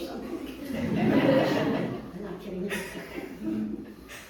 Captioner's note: audience laughing